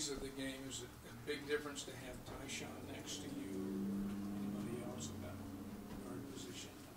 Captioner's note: car driving past